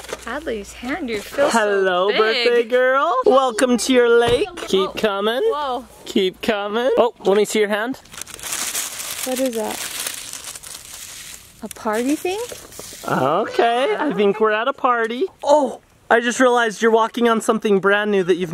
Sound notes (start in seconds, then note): 8.0 paper crinkling